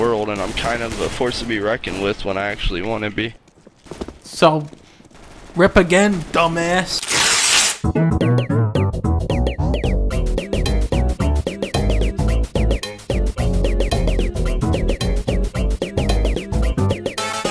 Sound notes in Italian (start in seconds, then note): 7.0 lungo effetto sono di uno strappo di nastro adesivo